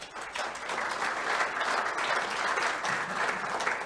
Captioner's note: crowd clapping